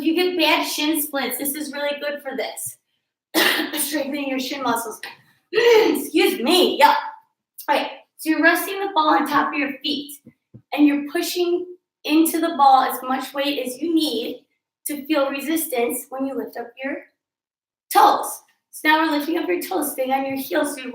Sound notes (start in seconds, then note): 3.3 coughing...Excuse me, yuck